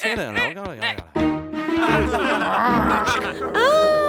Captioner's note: laughter